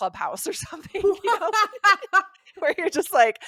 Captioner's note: laughs